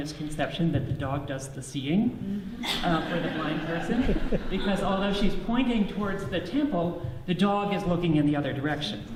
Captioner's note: audience laughs